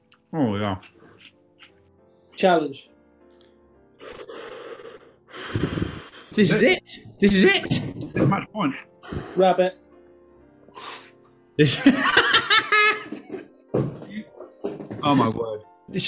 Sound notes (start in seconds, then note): 4.0 inhales and sighs; 10.7 exhales; 11.6 laughing; 11.6 laughs